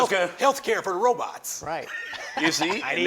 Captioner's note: laughs